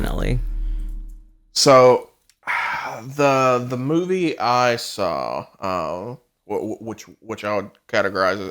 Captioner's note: sighs